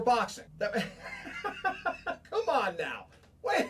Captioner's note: laughing